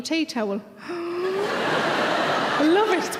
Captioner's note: inhales excitedly; audience laughter